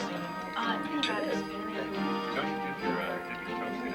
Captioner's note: chattering